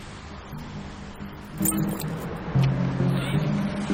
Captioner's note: keys jingling